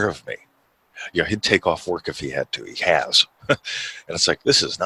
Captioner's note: chuckles